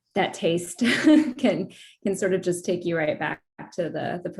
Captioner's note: laughter